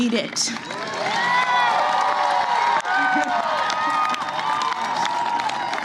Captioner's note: applause